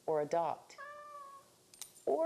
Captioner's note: cat meows